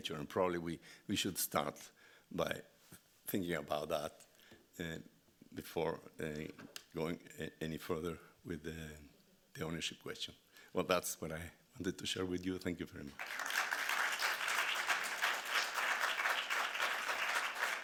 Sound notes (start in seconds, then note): 13.1 audience clapping